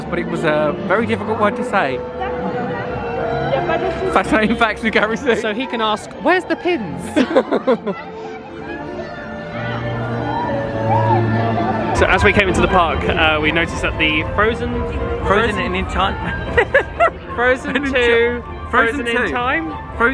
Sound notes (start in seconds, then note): 7.0 laughs